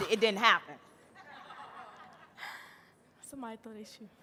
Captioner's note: audience laughing